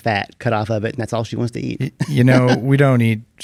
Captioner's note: laughs